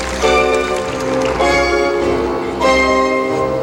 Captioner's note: applause